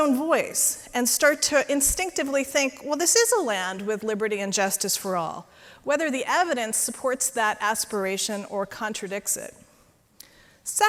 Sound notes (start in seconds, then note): none